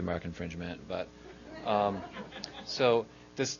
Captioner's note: audience laughing